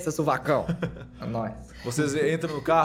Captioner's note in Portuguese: risada